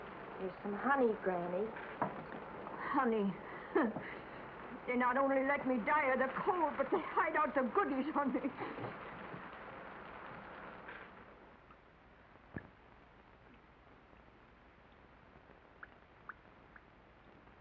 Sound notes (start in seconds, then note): 0.0 rain patters; 3.9 scoffs; 12.4 water drips